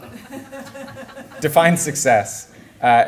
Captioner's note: laughter